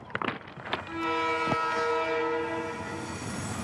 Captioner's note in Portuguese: comboio a apitar